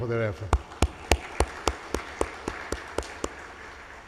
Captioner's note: audience applauds